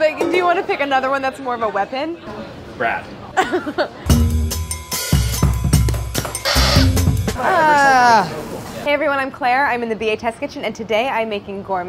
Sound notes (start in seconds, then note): 3.4 laughs; 4.0 upbeat jazzy music